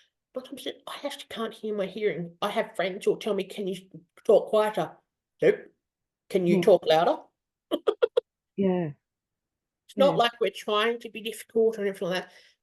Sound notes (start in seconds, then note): 7.7 laughs